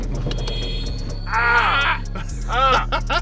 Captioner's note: beep; both groaning; laughs